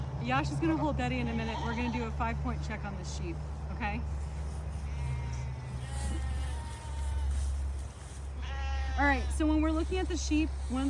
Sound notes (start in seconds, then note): 5.1 sheep bleating